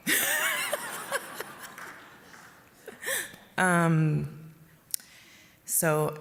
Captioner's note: laughter